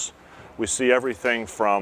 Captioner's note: background work environment sounds